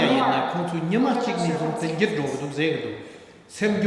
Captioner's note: speaking tibetan